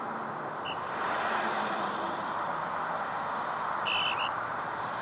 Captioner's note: policeman blowing whistle